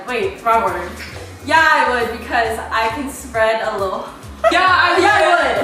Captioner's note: laughing